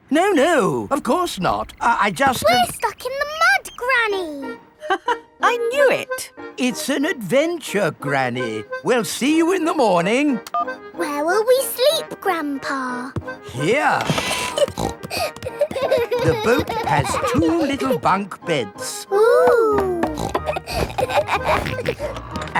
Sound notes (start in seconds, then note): 0.0 laughs; 5.1 laughs; 14.0 snorting; 15.1 kids giggling; 19.7 snorts, laughs